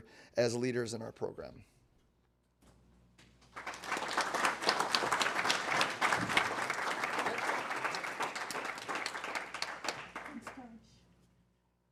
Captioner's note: applause